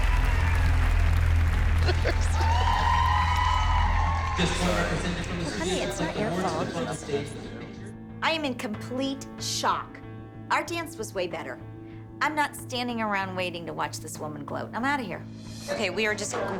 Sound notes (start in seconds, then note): 1.6 laughing